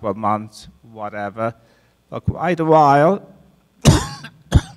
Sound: coughs

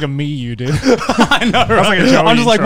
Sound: laughs

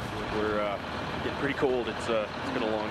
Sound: voiceover

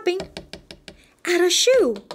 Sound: tapping!

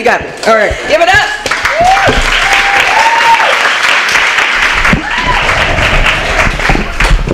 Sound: applause

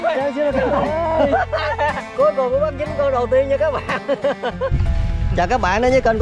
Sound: laughter

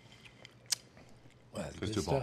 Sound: smacks lips

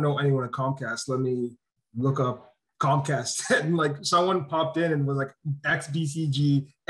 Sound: laugh

